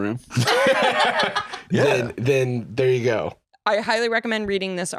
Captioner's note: laugh